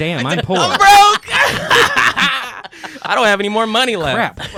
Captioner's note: laughing